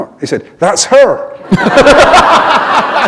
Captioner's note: laughter